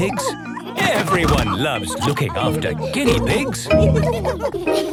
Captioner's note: laughter